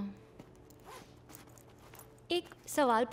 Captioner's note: Unzips